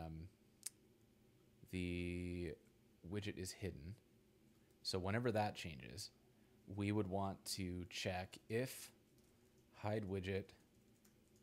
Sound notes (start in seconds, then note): none